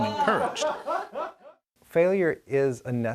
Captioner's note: kids chattering